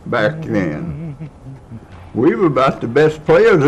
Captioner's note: humming